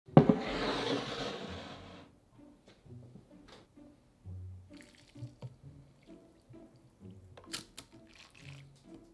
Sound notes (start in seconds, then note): 0.1 cup sliding; 7.5 crack